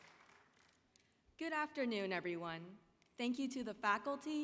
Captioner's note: applause